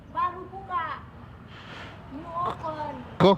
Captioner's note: local language